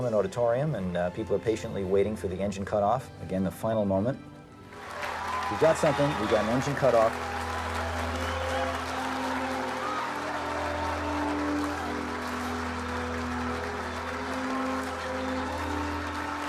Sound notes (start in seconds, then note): 8.2 crowd cheering; 11.2 crowd cheering